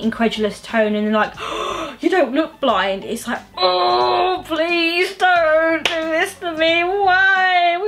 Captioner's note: gasps; frustrated groan